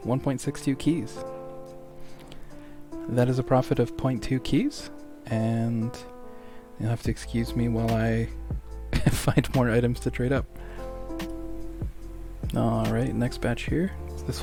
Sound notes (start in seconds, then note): 8.9 laughter